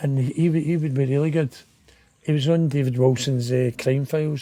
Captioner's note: none